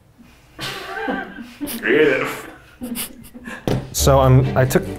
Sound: producers laugh

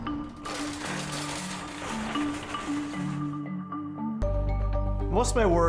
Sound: shopping cart rattling

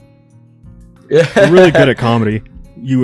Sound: laughs

